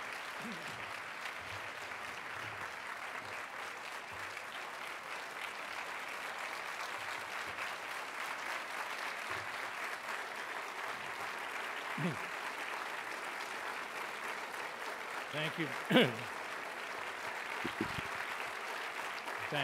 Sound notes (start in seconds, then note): 1.5 applause